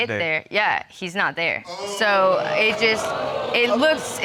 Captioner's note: audience exclaiming